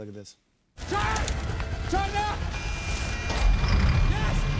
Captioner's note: engine starts